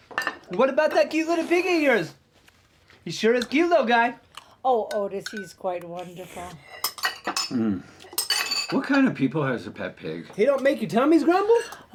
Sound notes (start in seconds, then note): 6.0 Buck slurps; 6.6 utensils clinking